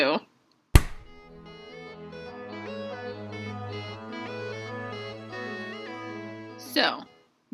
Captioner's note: clap